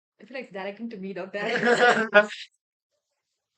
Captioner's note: everyone laughs